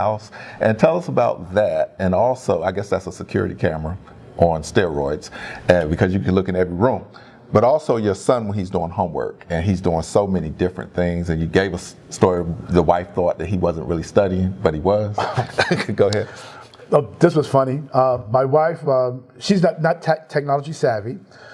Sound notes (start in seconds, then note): 15.1 laugh